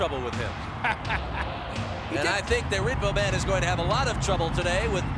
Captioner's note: laugh